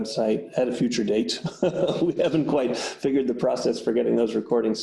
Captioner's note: audible laughter